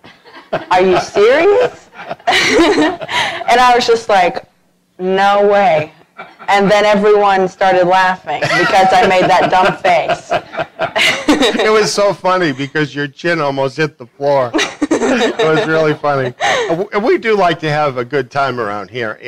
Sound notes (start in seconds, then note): 0.1 laughter; 8.4 laughter